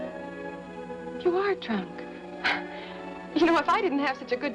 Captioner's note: scoffs